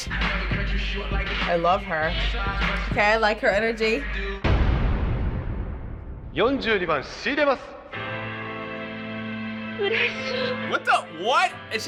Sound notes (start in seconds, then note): 0.0 hip-hop music; 4.3 loud drum beat; 4.3 man speaking Japanese; 9.7 woman speaking Japanese